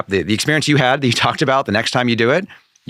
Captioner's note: laughing